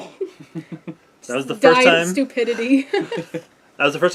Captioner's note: laugh